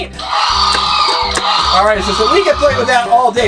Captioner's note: dinosaur roaring